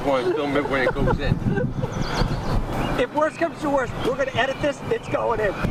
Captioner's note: laughter